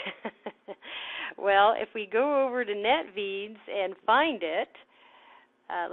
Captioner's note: laughing